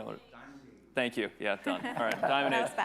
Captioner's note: attendees laughing